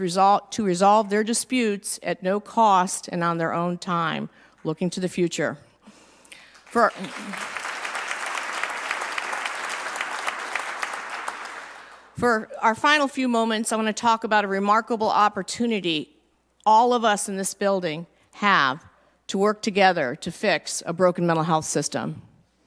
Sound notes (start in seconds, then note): 6.4 applause